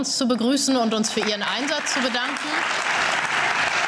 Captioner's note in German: Beifall